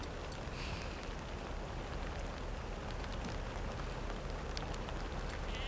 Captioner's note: raindrops tapping on car roof